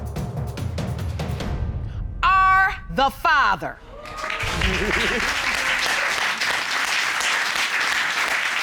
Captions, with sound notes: are the father. -[audience exclaims, applauds] -[laughs]